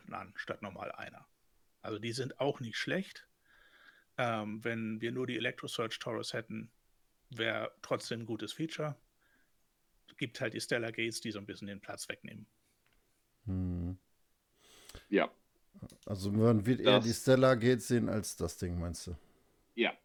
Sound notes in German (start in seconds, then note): 13.6 schnauben